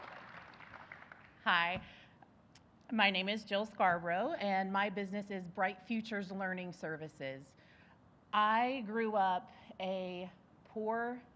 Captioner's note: applause